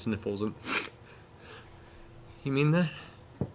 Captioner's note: sniffs